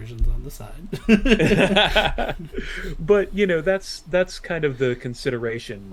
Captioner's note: laughter